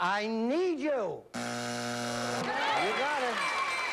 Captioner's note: buzzer